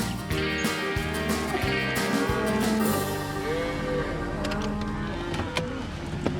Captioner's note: cows moo